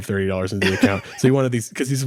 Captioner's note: laughing